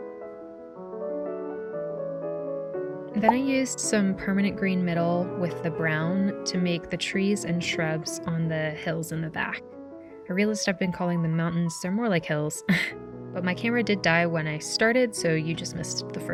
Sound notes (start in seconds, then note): 3.2 pop sound; 12.7 chuckles